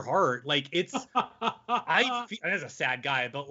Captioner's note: laughing